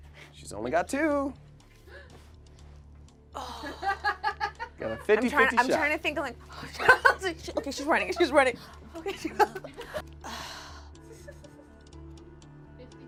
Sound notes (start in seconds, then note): 3.7 crew member laughs; 8.7 sighs